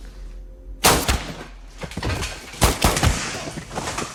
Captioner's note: gun firing